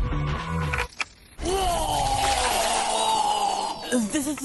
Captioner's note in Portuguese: Barulho de Vômito